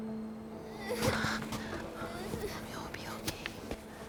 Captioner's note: Meg cries